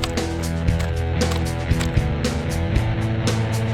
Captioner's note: tapping